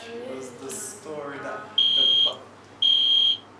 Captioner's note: fire alarm